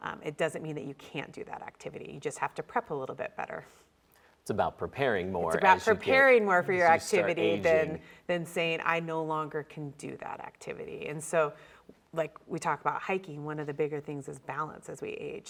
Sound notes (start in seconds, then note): none